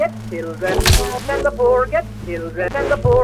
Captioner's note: ax thwacks